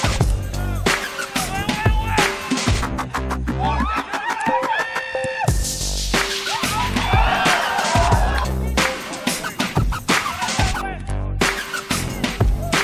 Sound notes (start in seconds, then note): 6.4 crowd